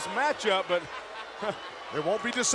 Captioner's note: Jeff laughing